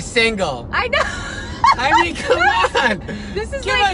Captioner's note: laughs